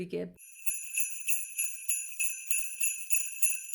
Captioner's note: sleigh bells